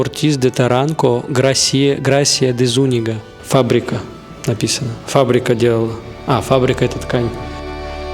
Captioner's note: poor attempts to read in Spanish